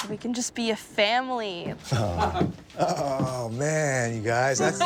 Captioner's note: chuckles; laughter